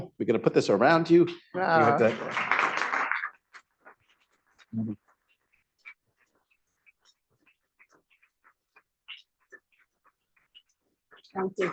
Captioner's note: applause